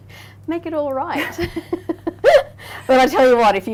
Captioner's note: laughing